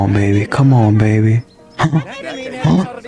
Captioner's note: exhales Oxygen; inhales Oxygen